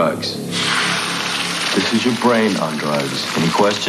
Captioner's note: sizzling